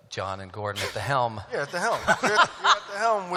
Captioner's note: laughter